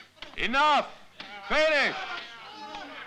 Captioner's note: Malay spoken audio